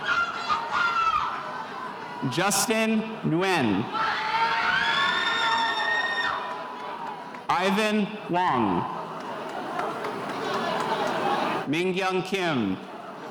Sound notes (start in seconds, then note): 3.5 spectators cheering